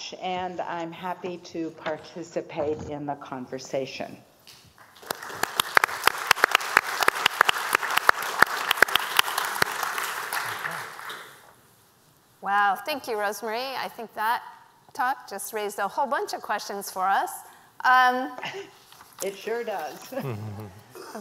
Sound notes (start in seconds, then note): 4.8 applause